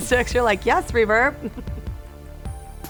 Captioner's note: laughs; upbeat music